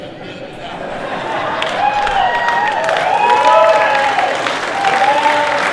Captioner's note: laughter and applause